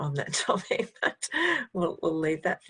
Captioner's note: laughing